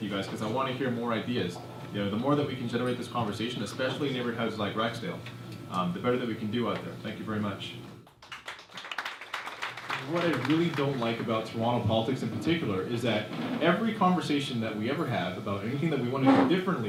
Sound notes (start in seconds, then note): 8.0 applause